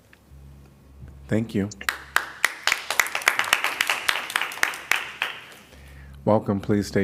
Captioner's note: applause